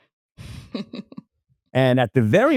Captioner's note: laughs